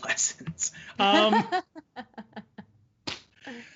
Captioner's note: laughing